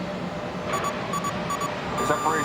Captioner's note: alarm